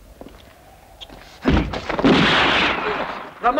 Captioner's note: gun firing